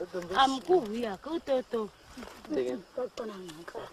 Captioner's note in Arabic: امرأة يتحدث بلغة أجنبية